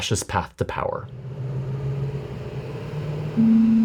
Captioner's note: truck engine rumbling; gentle contemplative music